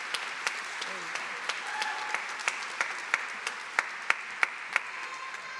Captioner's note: applause